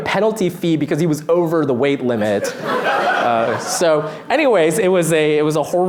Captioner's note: laughter